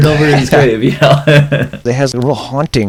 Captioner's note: laughter